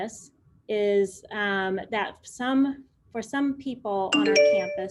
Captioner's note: phone chimes